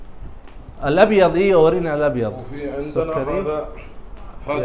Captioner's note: Arabic